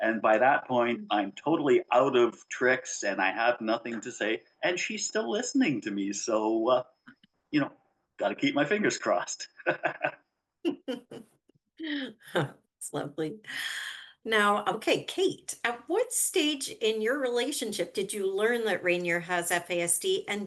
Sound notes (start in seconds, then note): 9.3 chuckles; 9.5 laughs